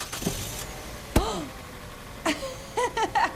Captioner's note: palm smacks on car window; laughter